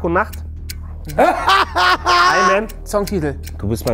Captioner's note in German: Auflachen